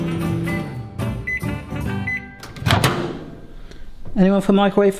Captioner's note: microwave beeps